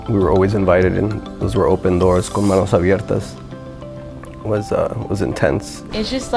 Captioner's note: speaking Spanish